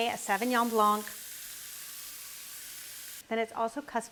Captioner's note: pan sizzling